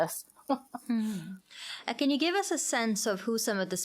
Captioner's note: chuckling